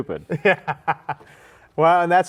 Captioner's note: laughs